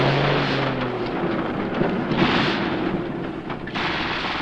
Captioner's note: driving sound